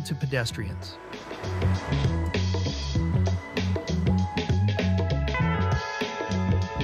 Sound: upbeat music; cars whooshing

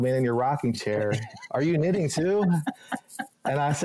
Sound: laughing

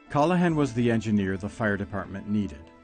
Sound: voiceover

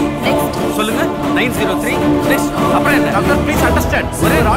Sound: none

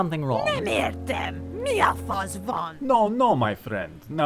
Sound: speaking foreign language

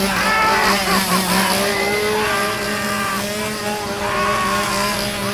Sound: chainsaw buzzing; man laughing

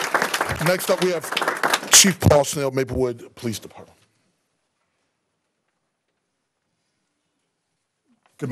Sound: applause

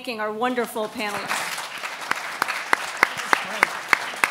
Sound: clapping

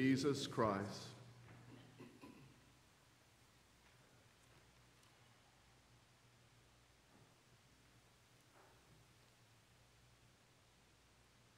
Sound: Silence as we pause and confess our personal sin in silence to God

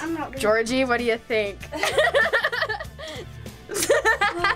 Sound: laughs; sighs

